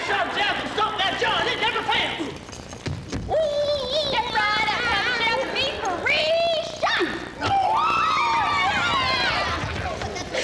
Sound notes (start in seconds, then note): 2.4 man yelling; 7.4 woman cheering